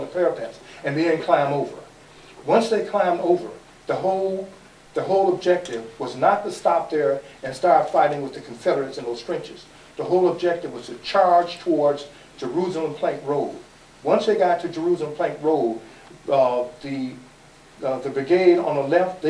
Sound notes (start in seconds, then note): none